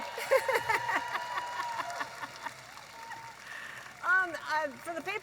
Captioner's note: audience applauding and cheering